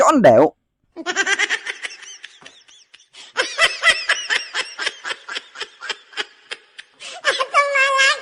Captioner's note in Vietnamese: Tiếng cười